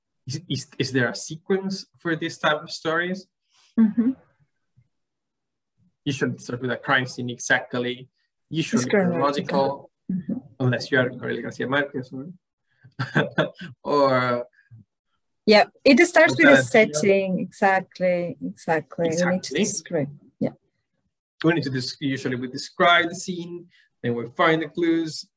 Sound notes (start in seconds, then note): 3.8 humms; 13.0 laughs